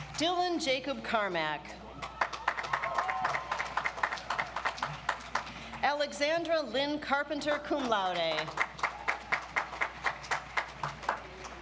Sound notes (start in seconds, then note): 2.0 audience applauds; 8.0 audience applauds